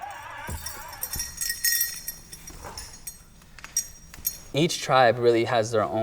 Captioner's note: bells tinkling